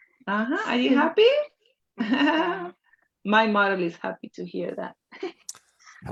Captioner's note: laughs